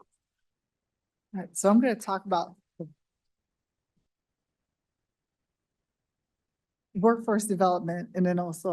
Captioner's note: pause